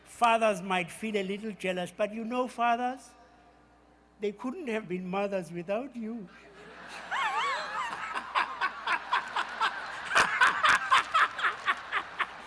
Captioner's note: laughter